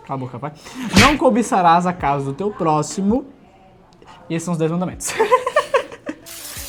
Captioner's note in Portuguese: risadas